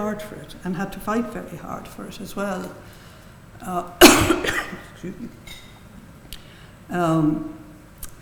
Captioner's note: coughs